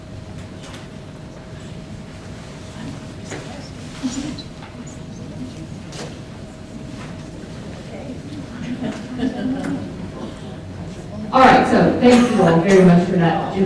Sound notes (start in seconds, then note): 0.6 audience whispers